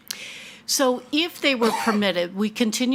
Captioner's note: attendee coughing